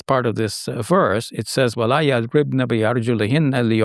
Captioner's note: speaking in Arabic